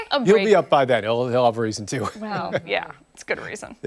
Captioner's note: laughter